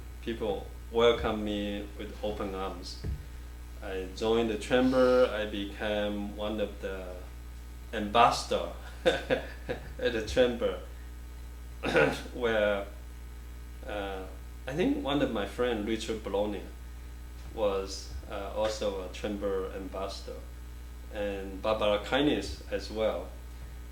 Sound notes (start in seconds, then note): 8.9 laughs; 11.8 clears throat